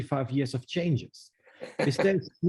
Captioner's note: laughs